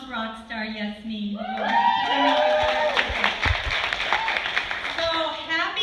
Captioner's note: cheers and applause